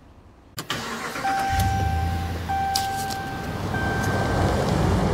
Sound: car engine roaring

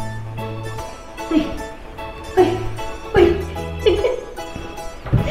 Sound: laughs

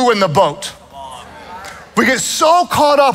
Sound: congregation mutters

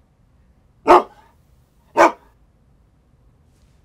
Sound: dog Barking

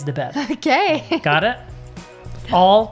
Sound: laughs

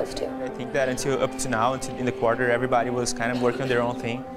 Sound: chatter

